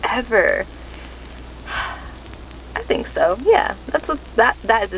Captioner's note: exhales